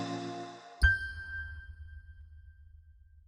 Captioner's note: logo chiming